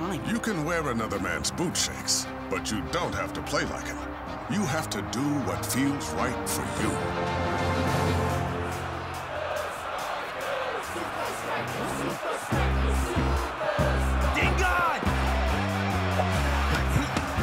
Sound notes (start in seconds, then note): 8.3 crowd